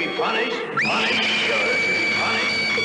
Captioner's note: echoing; girl screaming